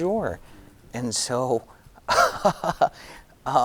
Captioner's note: giggling